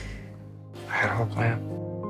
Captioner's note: voiceover